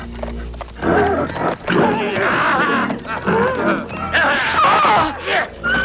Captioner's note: horse neighing; man laughing; shouts